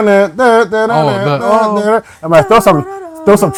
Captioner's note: huming